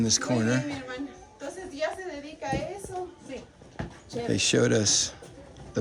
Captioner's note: woman speaking foreign language